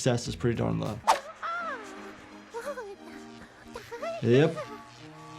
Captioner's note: Cub laughs